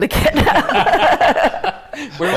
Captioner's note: laughter